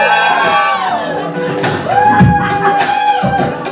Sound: cheers

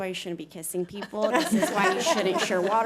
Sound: audience laughs

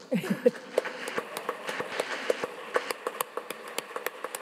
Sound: everyone applauds

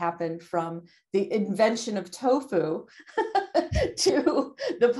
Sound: laughs

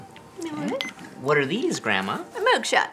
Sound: recorder beeps

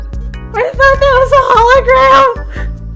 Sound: panicky voice

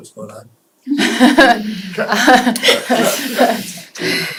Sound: laughter

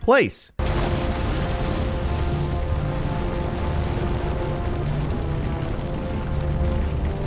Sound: castle rumbling; tense foreboding music

